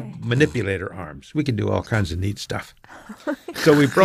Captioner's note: laughs